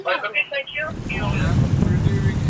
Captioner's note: radio talk